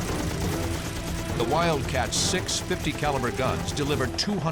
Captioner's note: gunshots